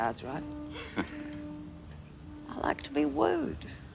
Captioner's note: laughs